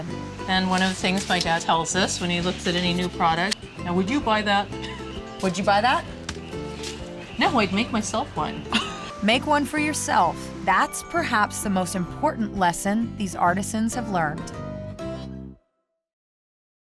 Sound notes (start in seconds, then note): 8.7 laughter